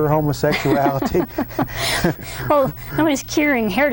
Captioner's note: laugh